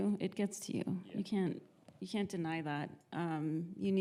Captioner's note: none